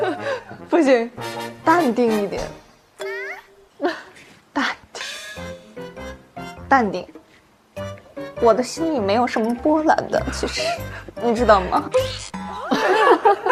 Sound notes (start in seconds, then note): 5.3 self-soothing